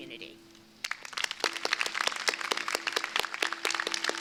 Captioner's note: crowd applauding